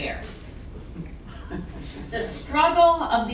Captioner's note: laughter